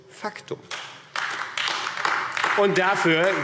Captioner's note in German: Beifall AfD